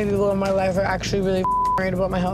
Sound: beeps

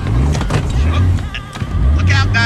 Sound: gear level engages

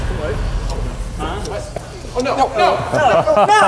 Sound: faint ticking sound

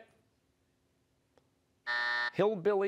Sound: buzzer

